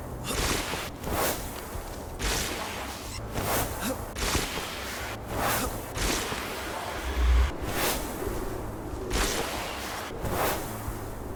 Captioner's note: thunder rumbling